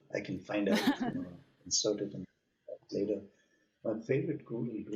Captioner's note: audio cutting out